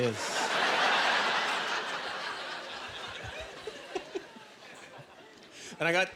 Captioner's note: laughing